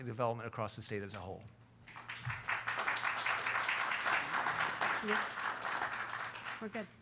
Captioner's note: applause